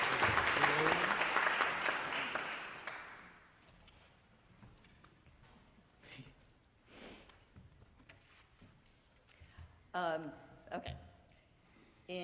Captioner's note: applause